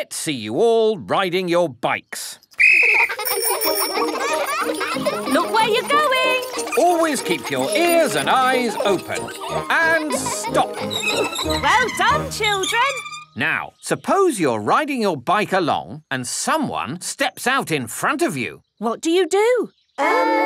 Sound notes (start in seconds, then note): 2.5 blows whistle; 3.6 giggling and ringing bells